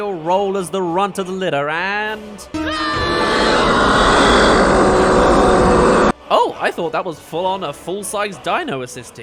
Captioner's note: scream-roar